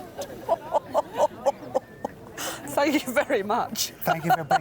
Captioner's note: laughs